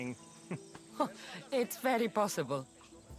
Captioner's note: laugh